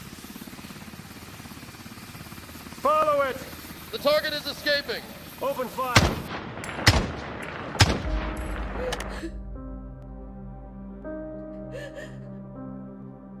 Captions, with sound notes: - Follow it. - The target is escaping. - Open fire. [Gunfire] [Sobs]